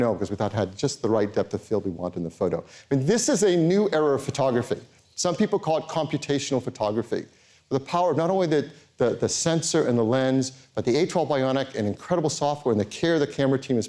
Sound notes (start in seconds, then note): none